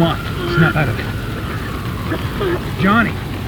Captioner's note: coughing